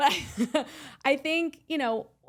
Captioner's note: laughs